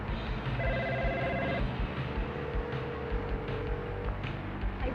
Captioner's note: phone dialing